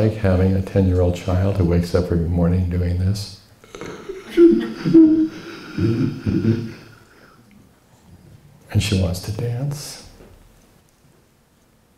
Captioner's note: wheezing